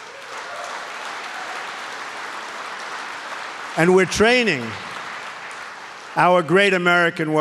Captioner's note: applause